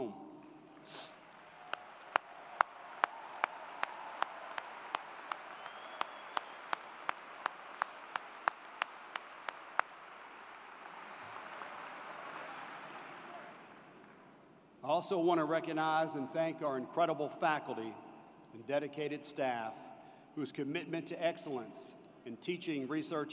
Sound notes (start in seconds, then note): 4.0 applause